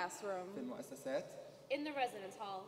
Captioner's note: speaking native language